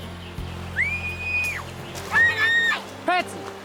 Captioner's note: Patsy screaming